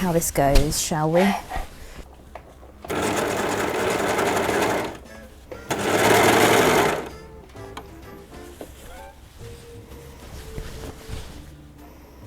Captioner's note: overlocker chugging